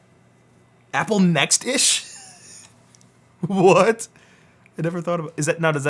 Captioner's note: laughs